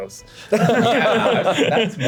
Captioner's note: laughs